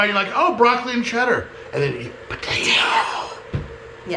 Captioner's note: both whispering